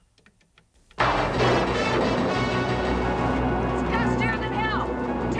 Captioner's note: dramatic music; thunder rolling